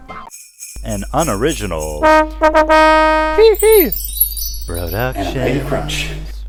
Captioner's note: horn